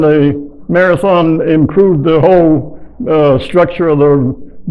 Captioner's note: none